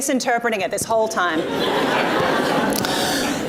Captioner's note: audience laughs